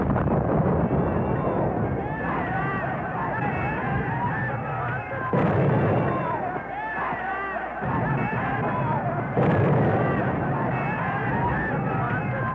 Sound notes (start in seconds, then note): 1.2 men yelling; 5.2 explosion booms